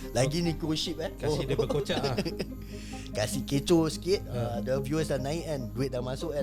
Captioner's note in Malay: ketawa